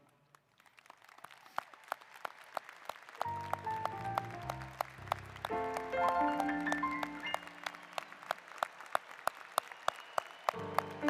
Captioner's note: applause